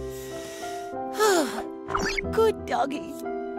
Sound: gentle light music; sigh

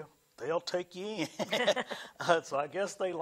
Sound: laughs

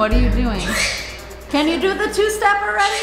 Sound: bird squawking

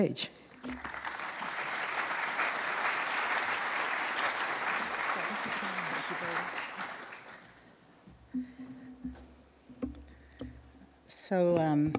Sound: applause

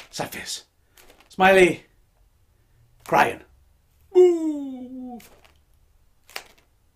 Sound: groaning sadly

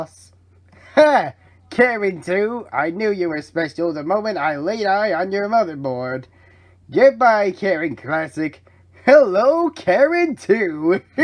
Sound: maniacal laughing

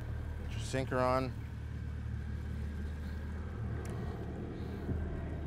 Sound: jet engines roaring overhead

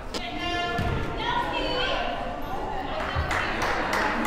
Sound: cheering

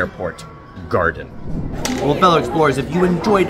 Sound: air whooshes

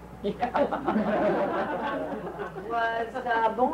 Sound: laughing

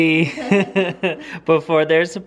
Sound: laughing

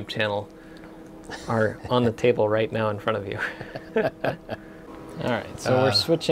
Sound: both are laughing

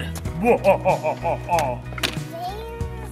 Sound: imitating devil laughing; mellow tempo playing

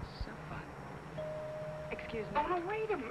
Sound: bell dings

